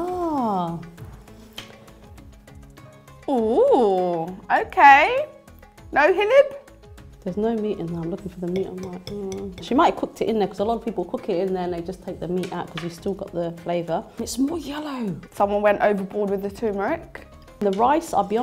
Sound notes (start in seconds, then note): 6.1 speaking foreign language; 8.5 fork clanging